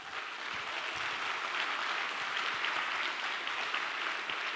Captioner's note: applause